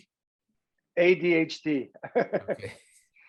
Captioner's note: laughs